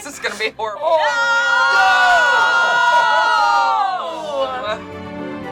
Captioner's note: group cheers and boos; light, bubbly music